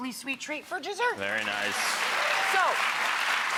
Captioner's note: audience clapping